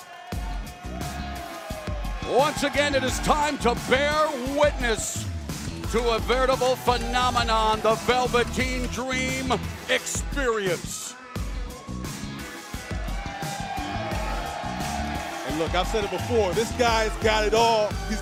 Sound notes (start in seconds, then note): 15.7 cheers and applause